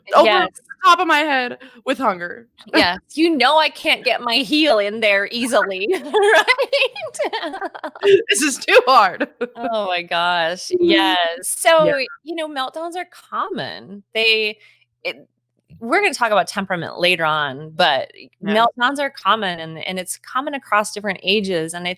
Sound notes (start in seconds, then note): 5.4 laughing